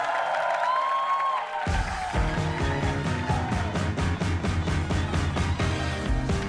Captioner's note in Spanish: aplausos